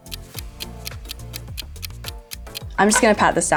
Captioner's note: clock ticks